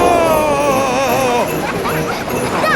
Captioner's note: screaming; children laughing